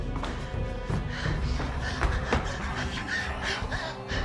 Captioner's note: Claire panting